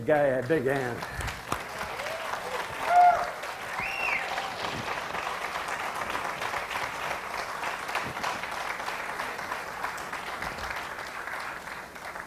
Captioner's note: audience applause and cheering